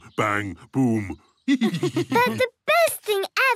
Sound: laughs

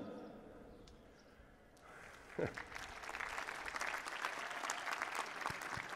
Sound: applause

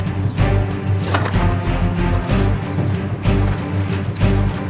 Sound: suspenseful music; garage crackles

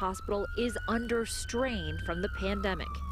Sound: sirens

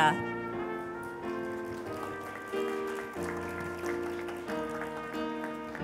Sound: applause

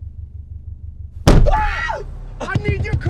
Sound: both scream

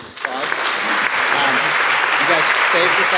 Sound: audience applauding; mumbling

